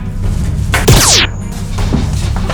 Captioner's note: laser noise